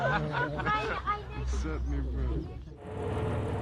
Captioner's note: laughing; speaking softly; voiceover